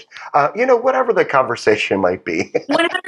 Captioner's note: laugh